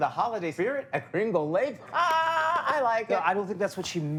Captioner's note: laughing